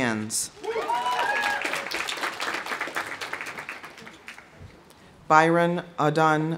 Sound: audience cheering; audience applauding

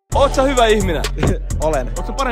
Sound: scoffs

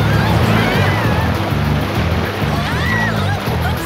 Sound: screaming

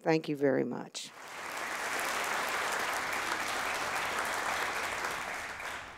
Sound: audience applauding

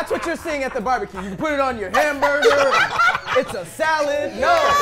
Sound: laughing

